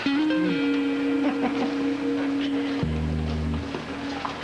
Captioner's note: Rires